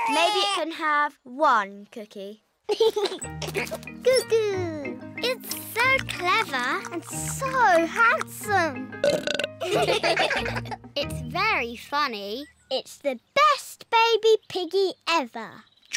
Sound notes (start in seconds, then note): 0.0 bawls; 2.7 giggles; 9.0 burps; 9.6 all laugh